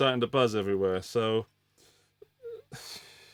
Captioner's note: sobbing